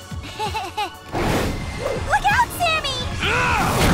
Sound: roaring and screaming

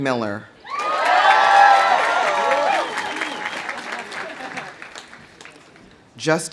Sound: audience cheering; audience applauding

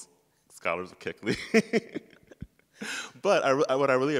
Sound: chuckles; laughs

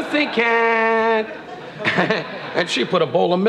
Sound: laughing

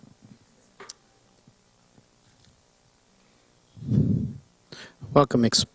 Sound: silence

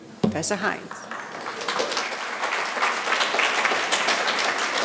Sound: audience applauding

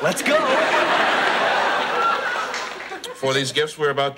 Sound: audience laughs

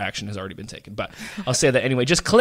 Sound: laughs

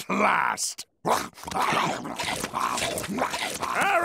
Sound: scarfing

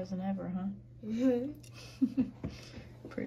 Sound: laughs

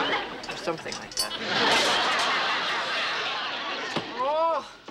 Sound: laughter

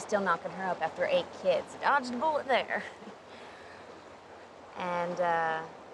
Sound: laughs

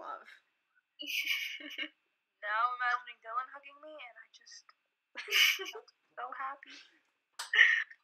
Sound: laughs

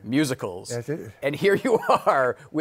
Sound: laughing

